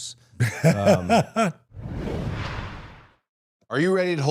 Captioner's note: Dallas laughs